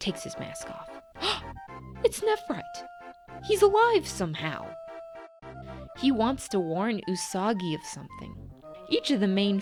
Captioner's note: gasp